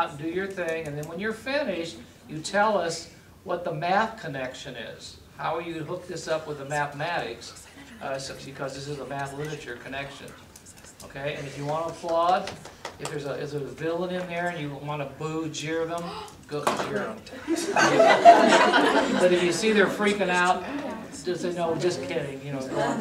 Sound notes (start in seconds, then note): 15.8 audience laughter